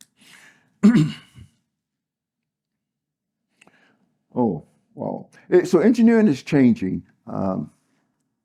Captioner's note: cough